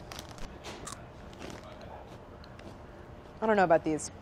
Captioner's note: crunching